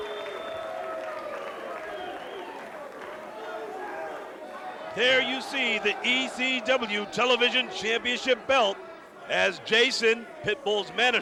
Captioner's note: crowd cheering